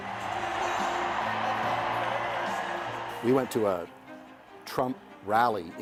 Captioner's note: cheers and Applause